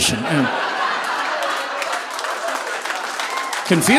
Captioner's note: audience laughing